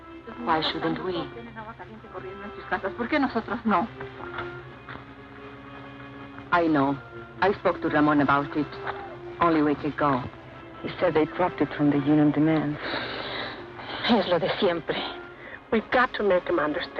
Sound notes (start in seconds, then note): 2.8 woman speaks Spanish; 13.9 woman speaks Spanish